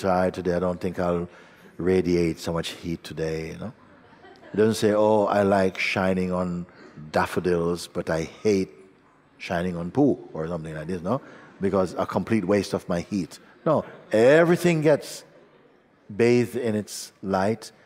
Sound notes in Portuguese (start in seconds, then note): 3.8 Risos